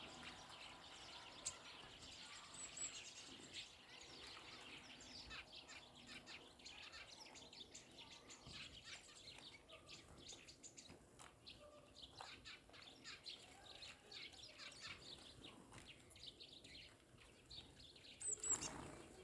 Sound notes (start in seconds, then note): 8.5 sound of sparrows and tits chirping and flapping their wings